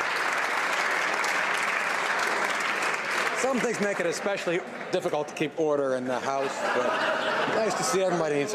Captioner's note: some Applause